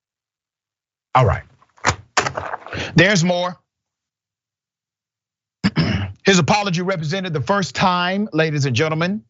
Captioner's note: cough